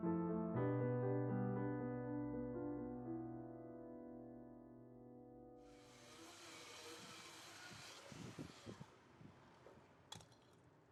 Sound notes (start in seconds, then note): 2.1 calm piano music ends; 5.7 chainsaw whirring